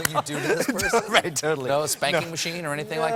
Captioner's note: laughter